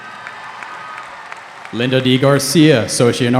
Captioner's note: cheering